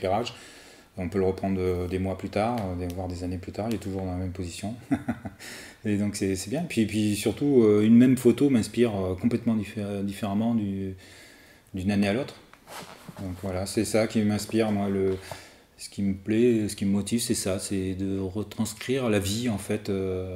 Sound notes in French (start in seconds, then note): 4.8 rires